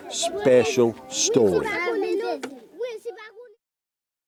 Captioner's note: speaking foreign language